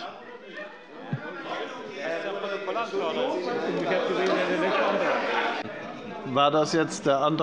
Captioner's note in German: Lebhafte Unruhe